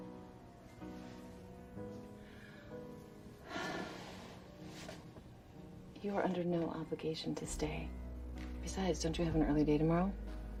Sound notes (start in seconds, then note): 3.4 sighs